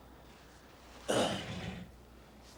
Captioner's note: clears throat